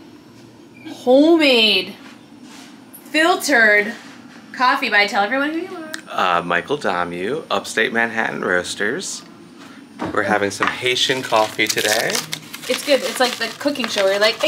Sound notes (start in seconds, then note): 11.0 bag scrunching